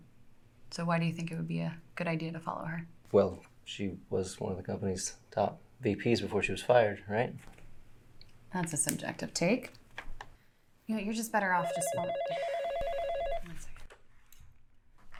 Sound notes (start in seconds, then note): 11.4 Lynn sighing; 11.5 phone ringing